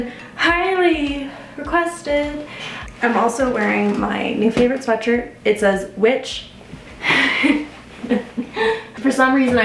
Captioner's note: chuckles